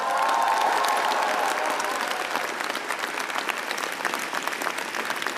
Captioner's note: applause and cheering